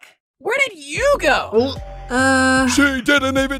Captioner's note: gulp